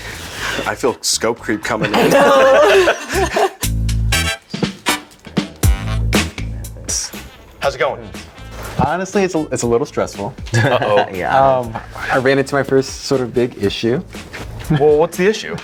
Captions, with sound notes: I feel scope creep coming in. I know. (laughing) (upbeat music) How's it going? Honestly, it's a little stressful. Oh yeah. I ran into my first sort of big issue. Well, what's the issue?